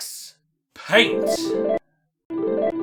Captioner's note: Rainbow paint noises